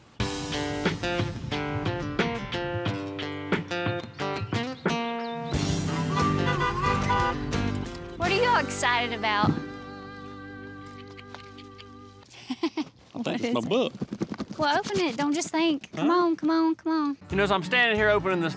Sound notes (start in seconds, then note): 5.8 honking; 12.2 chuckles